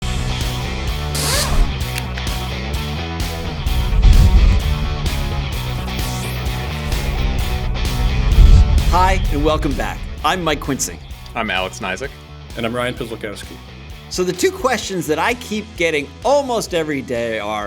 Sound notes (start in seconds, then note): 1.0 buzzes; 2.0 rock music